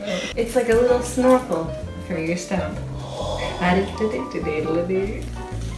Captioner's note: laughs; hums